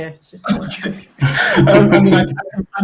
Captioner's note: laughs